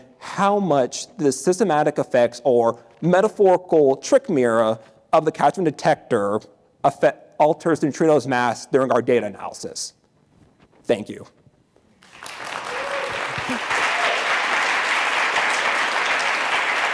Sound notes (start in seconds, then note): 12.0 audience applauding